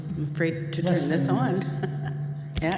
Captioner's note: microphone feedback